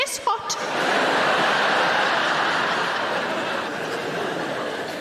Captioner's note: audience laughing